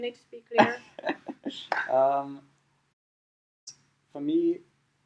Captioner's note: laughing